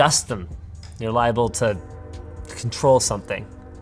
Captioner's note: train horn blaring